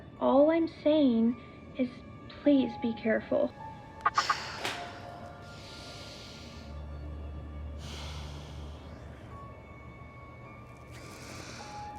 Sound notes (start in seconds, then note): 3.9 Eden sighs in frustration; 3.9 gentle suspenseful music; 5.5 Eden breathes deeply; 5.5 gentle suspenseful music